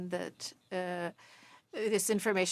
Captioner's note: speaking French